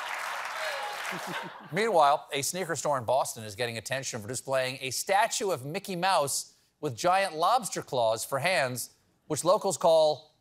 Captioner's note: laughter